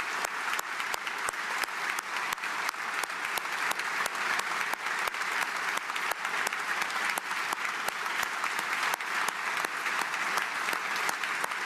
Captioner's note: applause